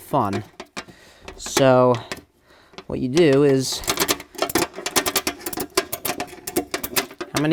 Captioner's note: tool clicking